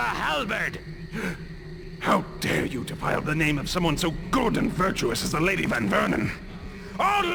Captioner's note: gasp